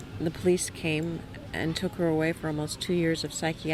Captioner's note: none